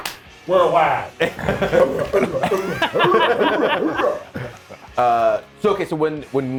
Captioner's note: applause; laugh